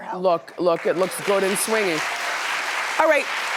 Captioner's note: audience applauding